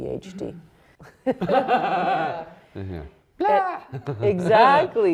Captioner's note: all laughing